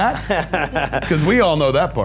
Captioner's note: laughing